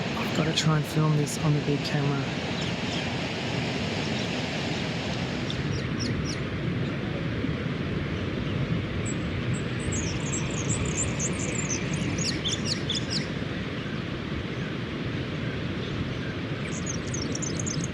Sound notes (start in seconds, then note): 4.6 wave sounds and birds chirping